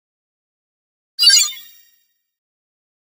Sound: sound of sci fi bleep

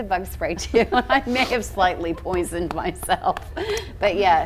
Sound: laughs

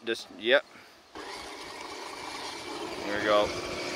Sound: machinery engine revs

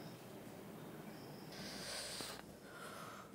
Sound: inhales; exhales

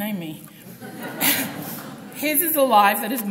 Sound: group laughs

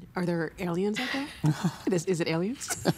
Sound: laughing

